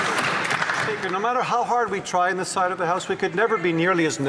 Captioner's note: some Applause